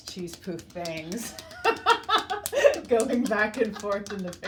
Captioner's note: both laughing